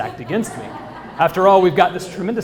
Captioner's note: laugh